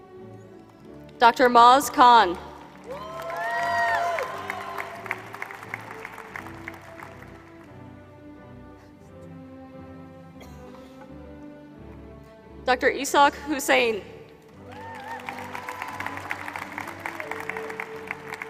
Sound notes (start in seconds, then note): 5.0 applause